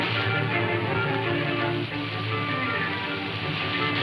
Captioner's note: waterfall pouring